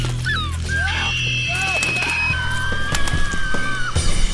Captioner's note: Cody screaming; gulls squawking